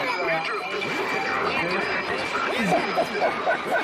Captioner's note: distorted echoing; laughing